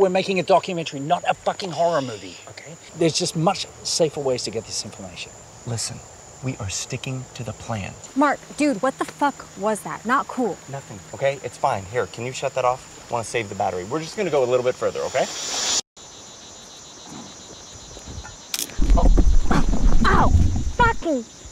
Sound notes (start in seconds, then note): 15.3 cicadas and river sounds; 15.3 sound of ankle rolling on loose debris